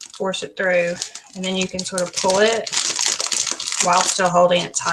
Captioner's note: plastic crunches